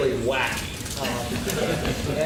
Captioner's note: laughing